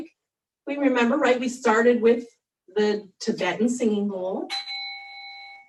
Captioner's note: chimes